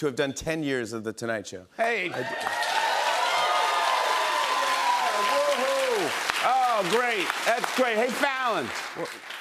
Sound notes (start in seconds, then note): 2.1 cheers and applause